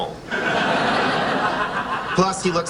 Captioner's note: laughing